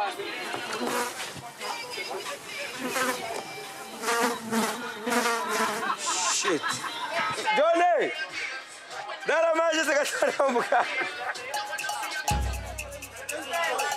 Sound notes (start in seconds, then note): 7.2 Portuguese spoken audio